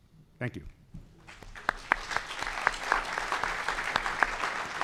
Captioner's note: applause